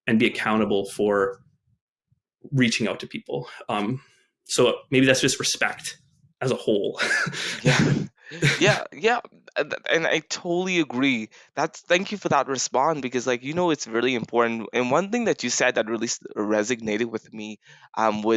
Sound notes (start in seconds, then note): 6.9 chuckles